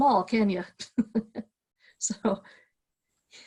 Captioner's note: laughing